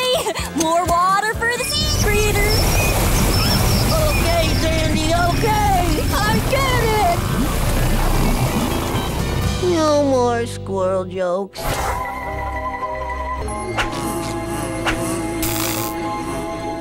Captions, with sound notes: More water for the sea critter. Okay, Sandy, okay! I get it! No more squirrel jokes. [buzzing]